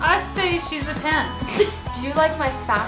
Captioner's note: chuckles